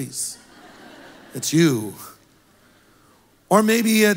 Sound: congregation laughs

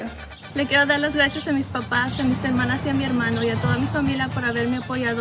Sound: speaks in foreign language

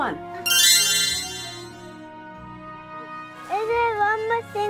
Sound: magical tinkling

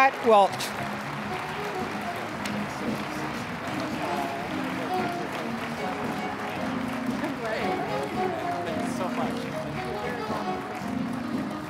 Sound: applause; mellow jazzy music

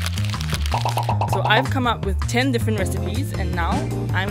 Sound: voiceover

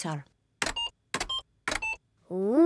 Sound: computer beeping

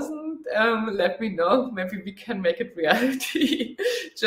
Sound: laughs

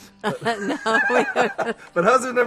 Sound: laughing

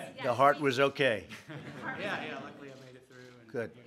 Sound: laughter

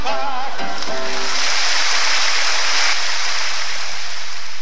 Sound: audience applause

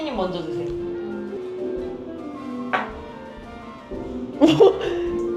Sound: gulps it down

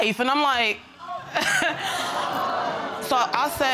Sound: scoffs

